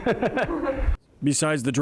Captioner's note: laguhs